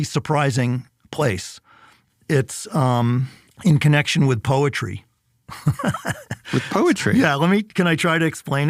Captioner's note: laughs